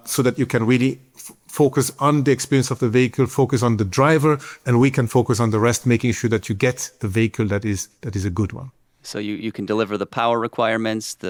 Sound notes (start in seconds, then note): none